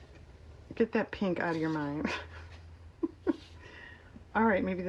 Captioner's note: laughs